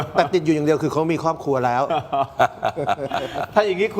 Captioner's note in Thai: เสียงหัวเราะ